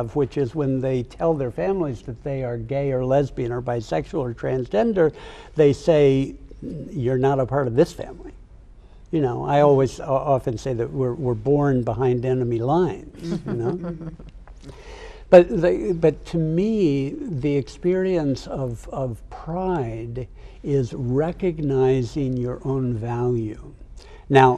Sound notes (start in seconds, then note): 13.2 group chuckles